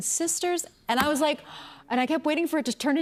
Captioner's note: gasps